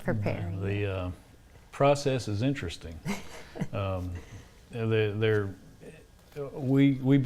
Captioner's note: laughs